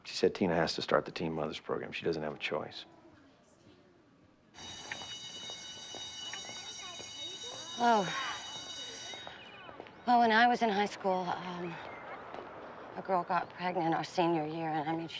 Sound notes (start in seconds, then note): 4.5 bell rings